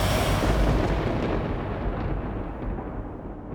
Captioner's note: thunder